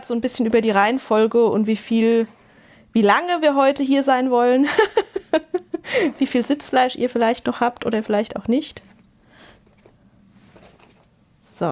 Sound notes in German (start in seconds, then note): 4.6 gelächter